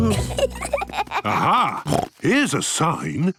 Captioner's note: children giggling; snorts